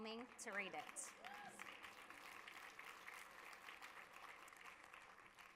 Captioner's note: audience applause